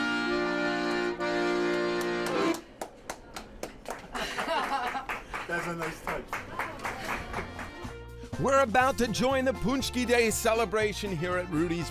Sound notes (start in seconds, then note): 1.7 group applauding; 4.1 laughing; 6.9 group applauding